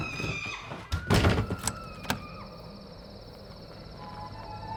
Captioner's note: door slamming; lock clicking